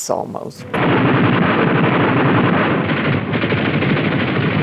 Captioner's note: gunfire